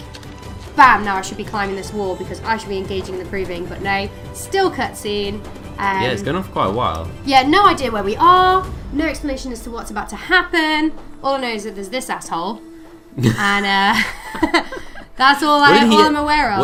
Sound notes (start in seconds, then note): 13.8 laughter; 15.6 laughing